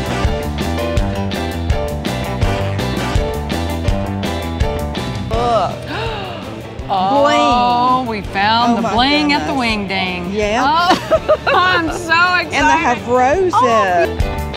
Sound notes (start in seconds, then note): 0.1 upbeat music continues; 5.7 gasps; 14.3 upbeat music